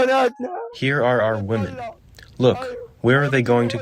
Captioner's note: through translator